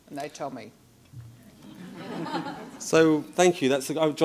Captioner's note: laughing